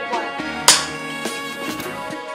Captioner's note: snap